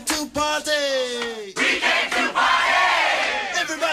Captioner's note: crowd